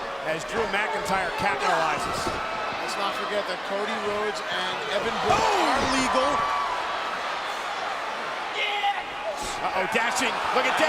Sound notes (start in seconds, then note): 7.5 crowd cheering